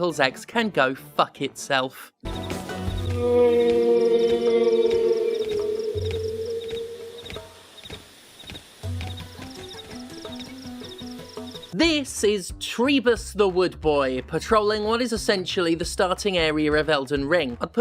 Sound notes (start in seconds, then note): 3.1 whale sound